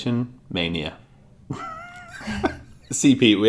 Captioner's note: laughter